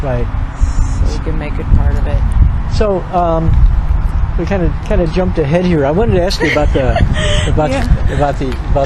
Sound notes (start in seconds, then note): 6.1 Glow laughs